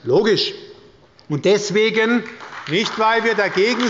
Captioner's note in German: Beifall bei Abgeordneten der SPD